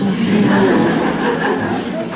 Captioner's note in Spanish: Risas